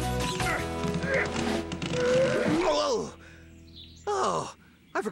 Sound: grunting

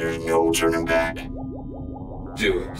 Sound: robots bleeping

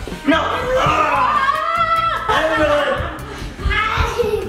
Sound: screaming

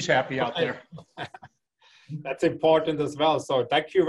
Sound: laugh

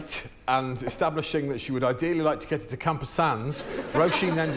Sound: laughter

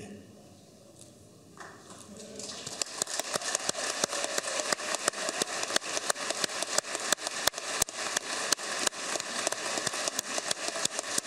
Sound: applause; talking between one another

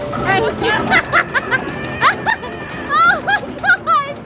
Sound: laughing

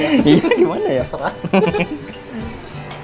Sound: laughing

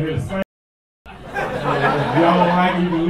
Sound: laughter

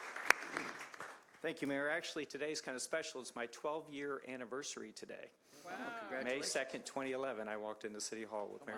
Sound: applause

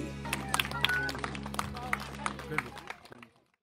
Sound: clapping

